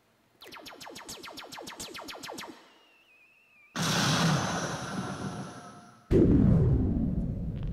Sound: laser beam noises; explosions

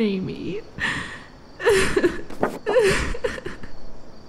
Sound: Kendall sobs

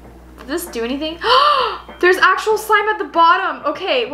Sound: gasp

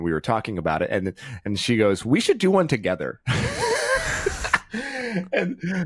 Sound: laughs

